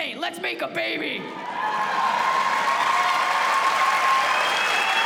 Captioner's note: cheers and applause